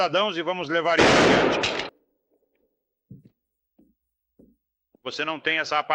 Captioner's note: gunshot